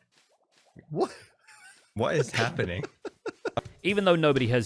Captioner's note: laughs